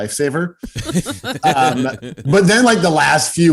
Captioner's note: hosts laugh